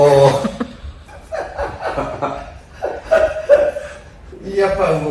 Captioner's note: laughs